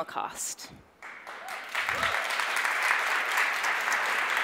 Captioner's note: audience applauds